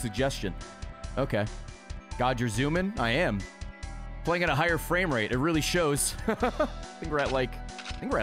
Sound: laughs

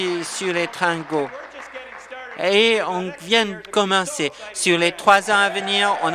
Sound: applause

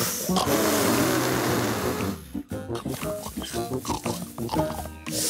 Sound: blowing and snorting

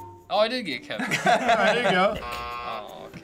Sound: chuckles

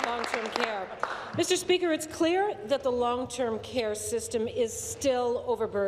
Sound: applause

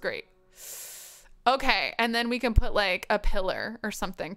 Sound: hisses

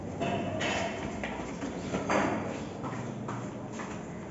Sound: footsteps

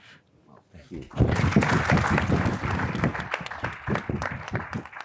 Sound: audience applauds

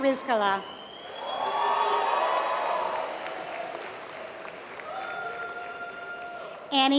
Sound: applause

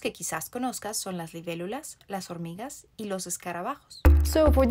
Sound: Spanish

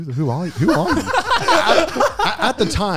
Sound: laughs loudly

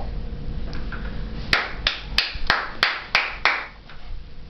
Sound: clapping

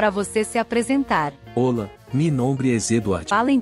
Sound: Spanish

